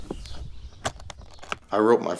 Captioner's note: clasps snap